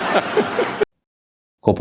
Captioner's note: laughter